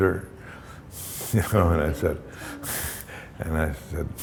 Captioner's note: chuckle